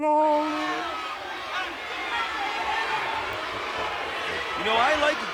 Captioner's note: crowd chattering